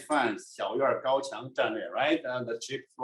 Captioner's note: speaking in foreign language